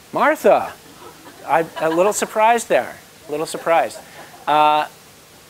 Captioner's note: laugh; laugh